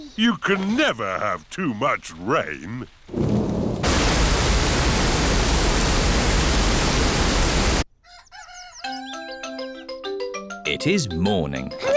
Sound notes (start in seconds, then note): 3.0 thunder rumbling; 8.0 cockerel crows